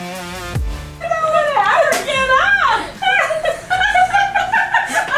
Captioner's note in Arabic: يضحك